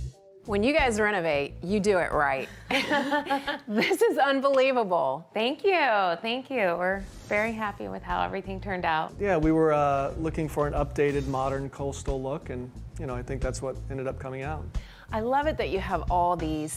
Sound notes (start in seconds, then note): 2.7 laughing